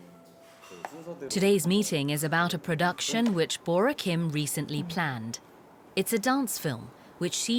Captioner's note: voiceover